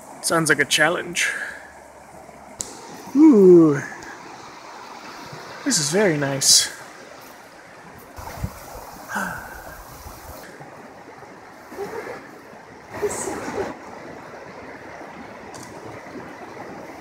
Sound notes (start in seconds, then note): 9.1 sigh; 11.7 laughs